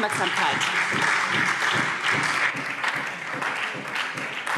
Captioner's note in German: Beifall SPD und Freie Demokraten